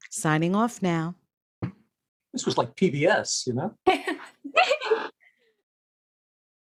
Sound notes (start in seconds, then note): 3.9 chuckles